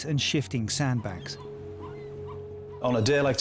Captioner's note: birds squawk